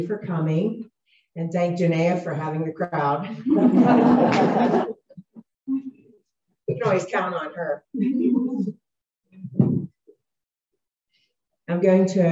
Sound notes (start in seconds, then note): 3.3 laughter